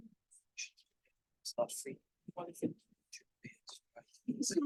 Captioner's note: chattering